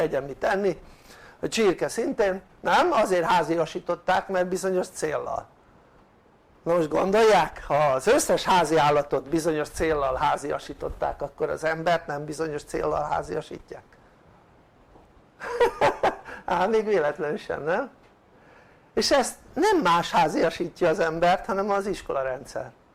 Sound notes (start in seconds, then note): 12.7 laughter